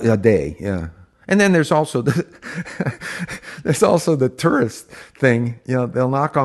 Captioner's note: laughs